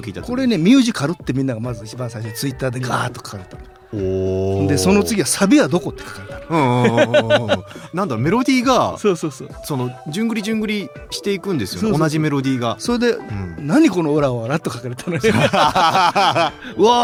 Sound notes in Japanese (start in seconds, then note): 8.7 笑い; 15.0 笑い